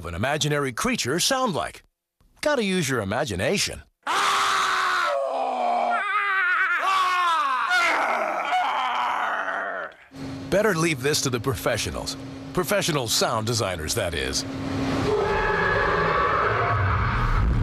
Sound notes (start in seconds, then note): 4.0 screams; 5.1 growls; 6.0 screams; 6.8 growls; 7.6 screams; 8.5 growls; 15.0 Yeti growls